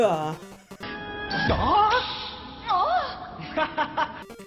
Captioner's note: Screams + Sonic Laugh